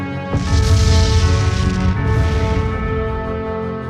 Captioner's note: cannons booming